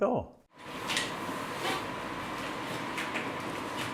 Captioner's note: projector hums